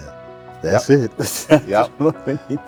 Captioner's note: laughs